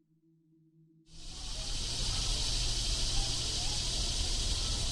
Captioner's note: insects chittering